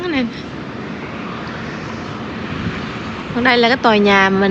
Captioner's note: traffic sound